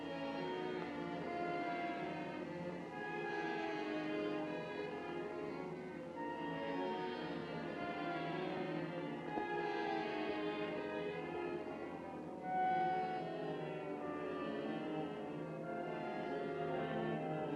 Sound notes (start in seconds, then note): none